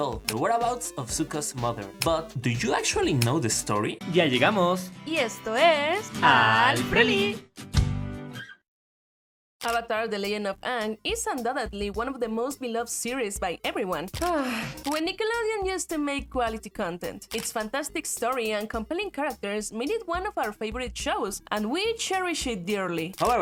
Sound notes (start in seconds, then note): 14.3 sigh